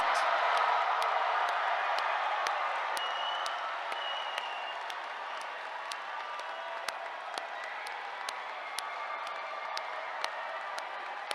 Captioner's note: cheers, applause